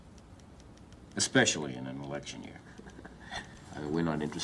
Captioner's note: chuckles